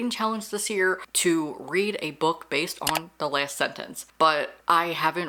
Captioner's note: mouse Click